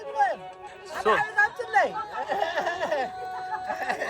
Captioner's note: speaking foreign language